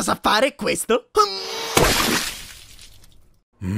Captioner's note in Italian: splat